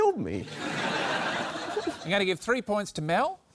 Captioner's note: laughter